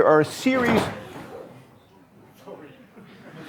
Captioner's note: thudding; audience members murmuring and laughing